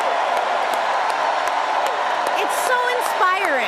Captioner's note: cheering and applause